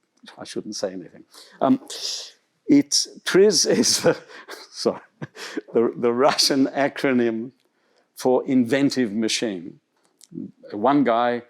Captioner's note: laughter